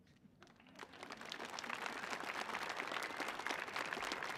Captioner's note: audience applauding